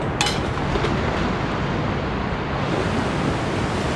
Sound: equipment clanging

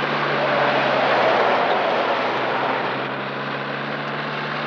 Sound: tires screeching

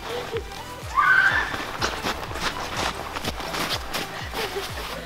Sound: squeals

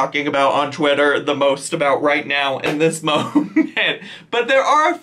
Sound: laughs

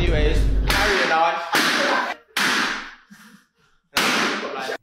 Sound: gunshots

